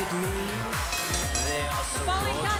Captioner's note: bell ringing